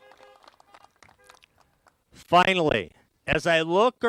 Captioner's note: applause